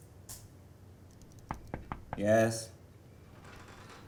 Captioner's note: knock